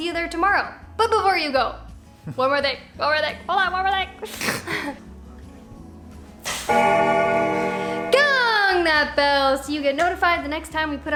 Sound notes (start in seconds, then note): 4.2 laughs; 6.6 bell Ringing